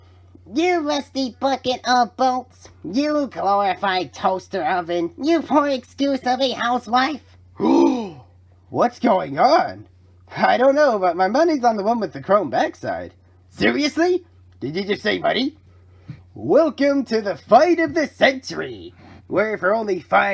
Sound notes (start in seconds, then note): 7.6 customers gasp